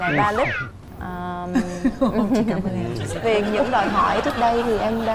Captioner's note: laughing